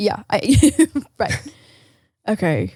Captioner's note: laughs